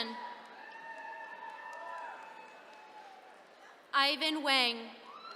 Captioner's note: attendees cheering